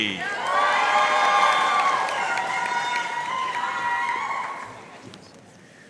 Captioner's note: audience cheering and applauding